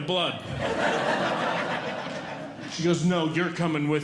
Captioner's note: audience Laughing